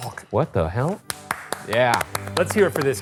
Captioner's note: both applauding